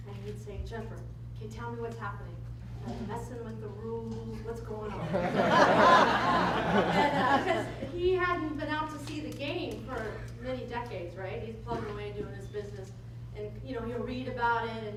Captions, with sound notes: And he'd say, Jennifer, can you tell me what's happening. Are they messing with the rules, what's going on? (laughter) And he hadn't been out to see the game for many decades, right.. He's plugging away doing his business. And you know, he'll read about it.